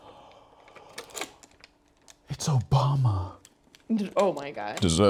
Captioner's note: gasps